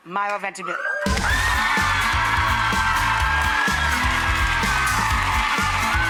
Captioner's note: audience clapping and cheering